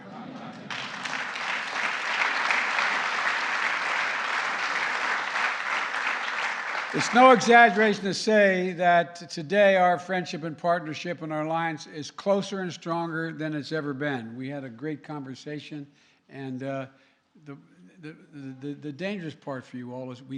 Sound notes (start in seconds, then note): 0.4 laughter and applause